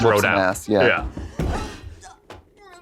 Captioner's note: table thuds